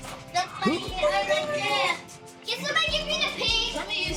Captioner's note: children chattering